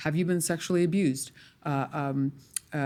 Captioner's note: stammering